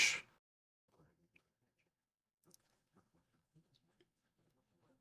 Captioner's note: silence